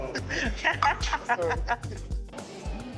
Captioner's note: laughs